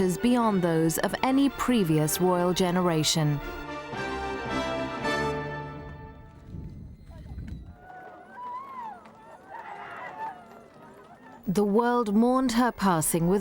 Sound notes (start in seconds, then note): 4.0 bright orchestral music; 7.7 crowd crying